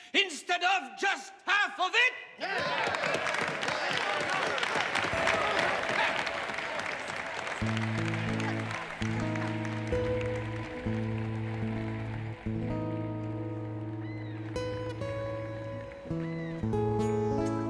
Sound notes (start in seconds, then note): 2.9 people cheering; 8.2 ambient music